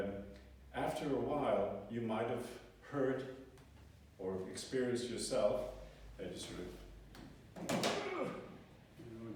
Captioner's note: grunt